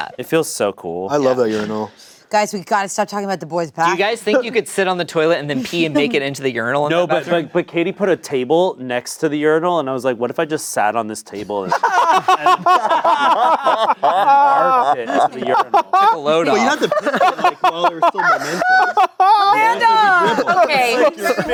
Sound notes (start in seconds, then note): 11.8 everyone laughing